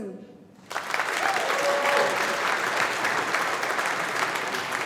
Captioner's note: audience applauding